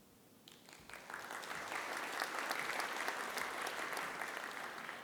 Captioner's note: audience applauding